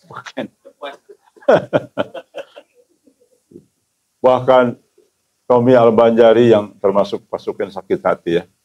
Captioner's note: laughs